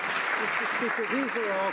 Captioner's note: some Applause